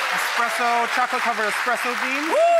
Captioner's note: applause